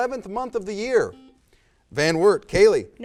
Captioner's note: buzzer